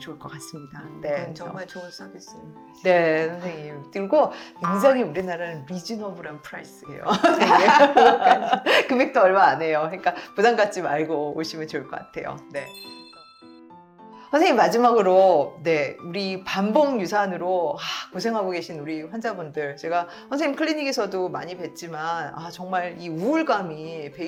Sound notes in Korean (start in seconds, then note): 7.1 웃음